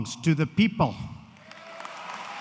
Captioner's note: applause